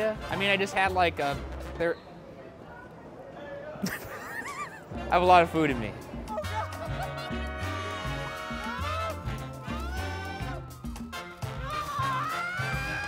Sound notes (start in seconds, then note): 3.8 laughing; 8.4 people yelling